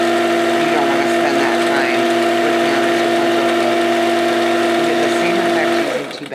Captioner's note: machine whirring